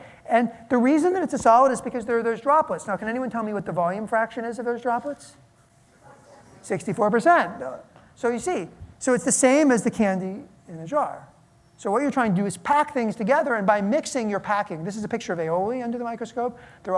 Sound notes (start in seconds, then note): none